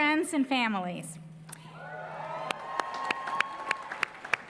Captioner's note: cheering, applause